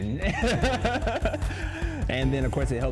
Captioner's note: both laugh